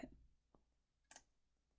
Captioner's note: click